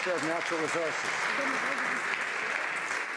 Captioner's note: some Applause